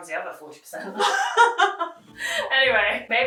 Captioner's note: both laughing